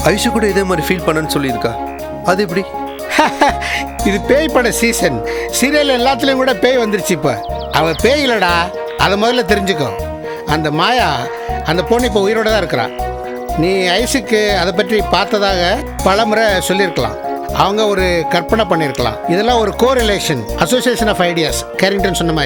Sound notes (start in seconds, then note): 2.9 laughs